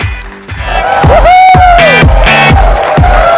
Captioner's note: audience cheers